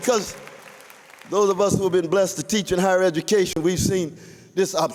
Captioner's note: applause